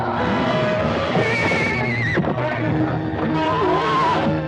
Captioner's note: horse whinnying